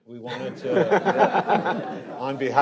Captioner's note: panelists laughing